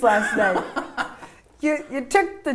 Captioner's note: laughter